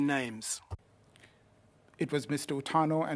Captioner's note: speaking in French